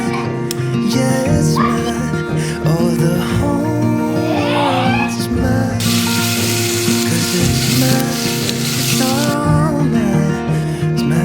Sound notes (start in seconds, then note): 7.7 laughs